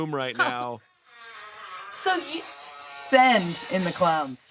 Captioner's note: fart noises